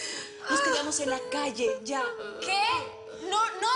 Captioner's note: Sollozos